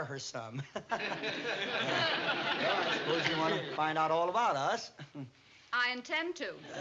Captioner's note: laughs